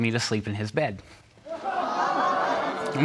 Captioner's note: audience gasps